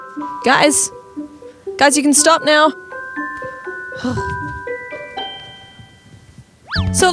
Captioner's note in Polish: westchnienie